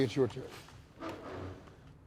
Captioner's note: chair scraping